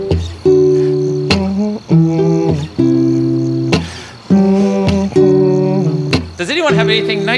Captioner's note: humming